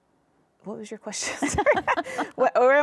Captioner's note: laughs